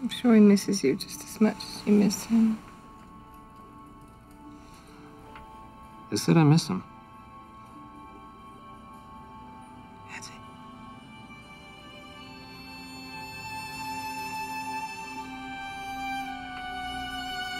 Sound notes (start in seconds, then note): none